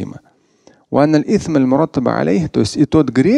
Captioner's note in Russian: Говорит на арабском